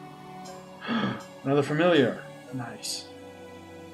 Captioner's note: gasps